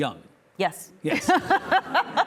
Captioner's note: laughing